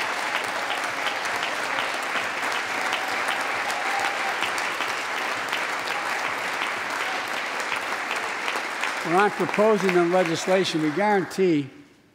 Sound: applause

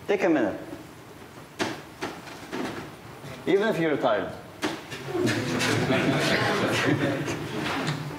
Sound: laughter

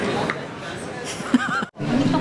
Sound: laughing

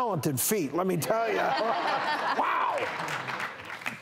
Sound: laughter

